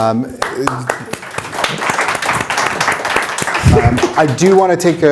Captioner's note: attendees applauding